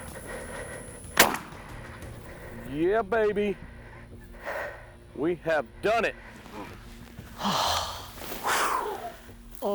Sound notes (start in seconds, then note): 1.1 gun shoots; 7.3 sighs